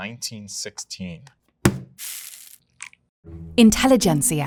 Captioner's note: bag thudding and coffee pouring